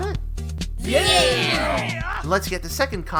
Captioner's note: chorus of affirmation